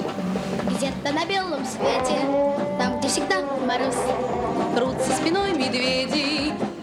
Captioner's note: child singing in Russian; horn bellowing